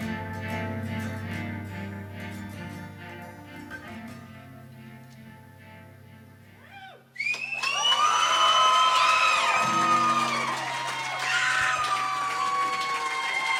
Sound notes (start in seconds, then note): 7.2 audience applauding and cheering